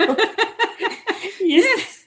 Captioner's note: laughs